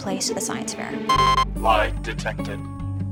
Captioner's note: beeps